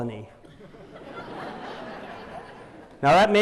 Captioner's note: laughter